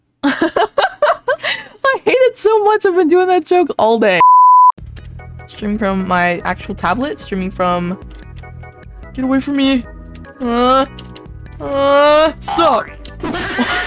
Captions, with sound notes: *laughing at my own cringe* I hate it so much! I've been doing that joke all day Streaming from my actual tablet, streaming from... get away from me.. *panic noises* *panic noises* STOP